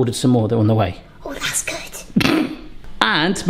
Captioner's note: giggling